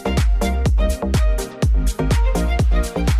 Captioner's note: none